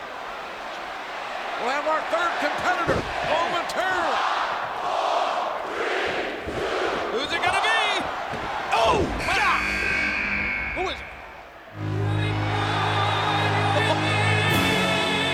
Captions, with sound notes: (crowd cheers) We'll have our third competitor momentarily. Five. Four. Three. Two. Who's it gonna be? Ooh! God! (buzzer sounding) Who is it? (grandiose opera music)